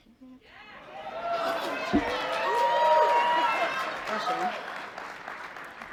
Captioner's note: cheering